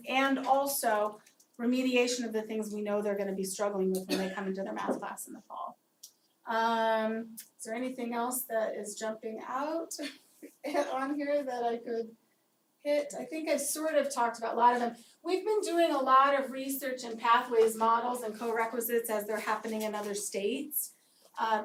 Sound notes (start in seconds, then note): 10.1 laugh